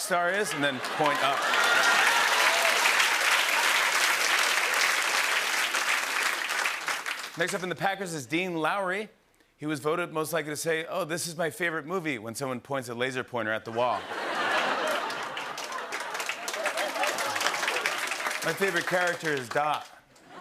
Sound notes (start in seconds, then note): 3.4 cheers and applause; 13.8 laughter and applause